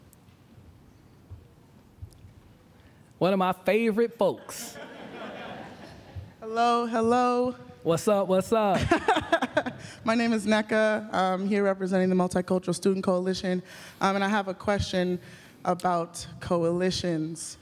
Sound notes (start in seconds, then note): 4.5 laughter; 8.8 laughs